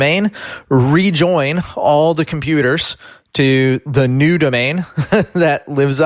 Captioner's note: laughs